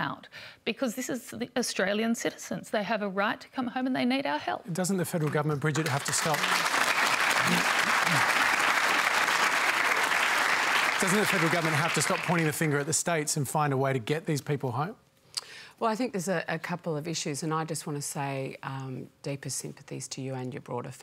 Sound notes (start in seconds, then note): 5.1 applause